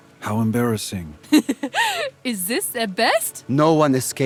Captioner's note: giggling